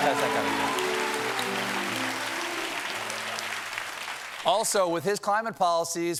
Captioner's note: piano riff; cheers and applause